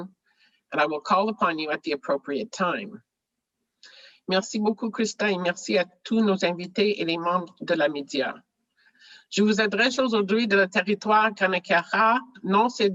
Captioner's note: speaking french